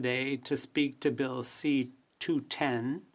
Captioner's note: speaking in French